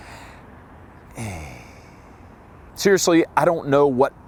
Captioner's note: sighing